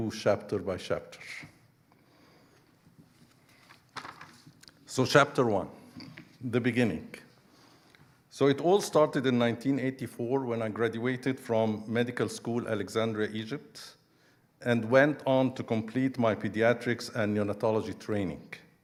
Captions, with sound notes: chapter by chapter. (pages rustling) So, chapter one, the beginning. So, it all started in 1984, when I graduated from medical school Alexandria, Egypt, and went on to complete my pediatrics and neonatology training.